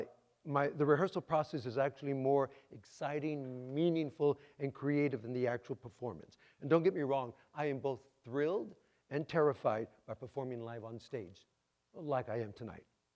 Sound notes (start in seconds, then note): none